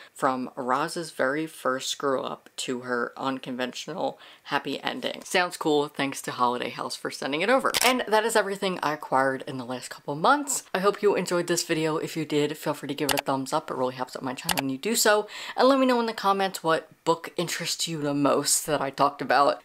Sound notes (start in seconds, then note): 7.7 camera shutter